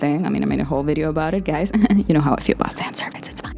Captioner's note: chuckles